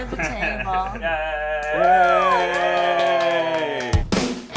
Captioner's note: cheers; high energy music